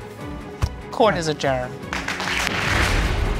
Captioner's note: crowd applauding